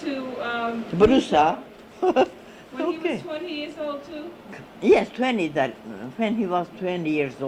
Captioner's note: laughs